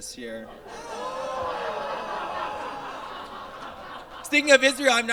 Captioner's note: audience groans and laughs